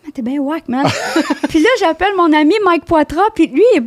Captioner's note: in french